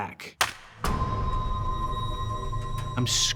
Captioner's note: crack